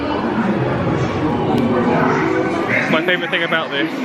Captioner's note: people chattering